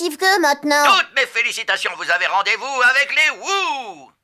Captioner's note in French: radio